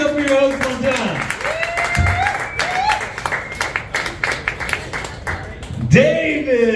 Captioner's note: claps